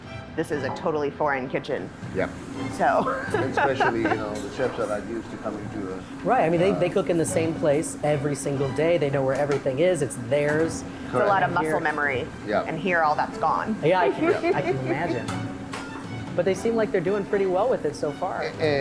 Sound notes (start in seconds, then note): 7.7 laughs